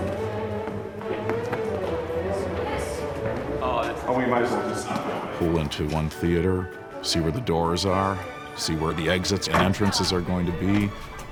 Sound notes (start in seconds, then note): 0.3 rapid classical music; 3.6 men chattering